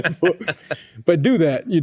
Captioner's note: both Laughing